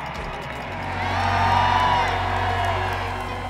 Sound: cheering swells; fans cheering

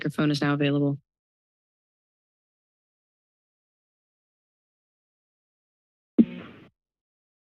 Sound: silence

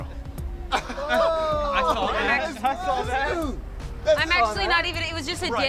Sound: group laughing and chattering

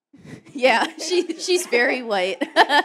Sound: laughter

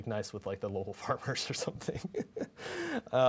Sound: chuckling

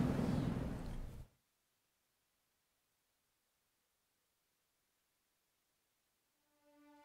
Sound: silence

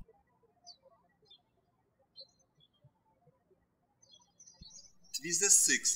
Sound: birds chirping

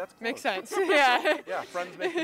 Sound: laughing

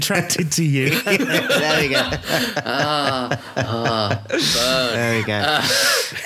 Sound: laughing

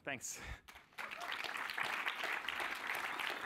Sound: applause

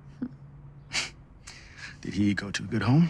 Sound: chuckles

